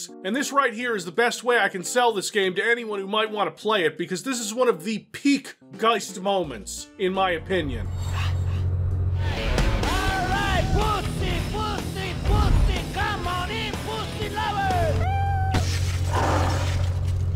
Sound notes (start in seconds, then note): 15.1 meow; 16.0 roar